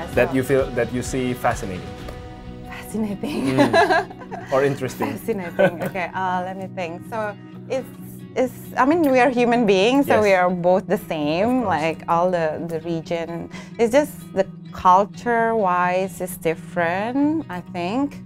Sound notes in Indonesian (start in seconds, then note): 3.4 tertawa